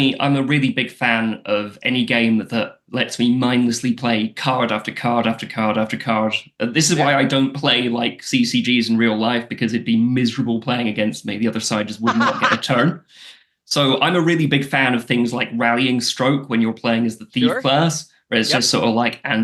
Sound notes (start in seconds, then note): 11.9 laughs